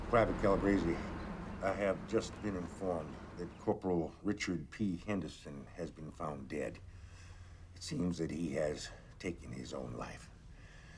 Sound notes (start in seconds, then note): none